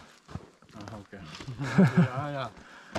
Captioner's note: laughter